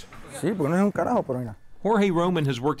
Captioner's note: man speaking in foreign language